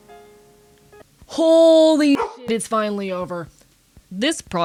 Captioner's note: bark